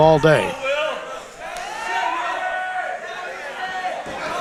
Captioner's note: crowd cheering